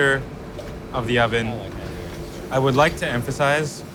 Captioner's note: person speaks in foreign language